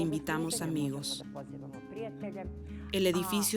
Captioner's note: Hablando idioma extranjero